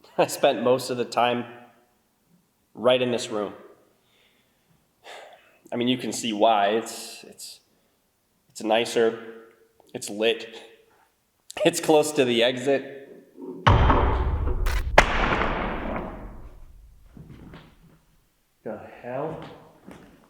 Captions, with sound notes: I spent most of the time right in this room. I mean, you can see why it's, it's, it's nicer, it's lit, it's close to the exit. (wood thuds) (static crackles) (wood thuds) What the hell?